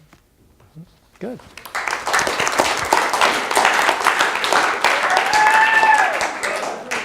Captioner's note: applause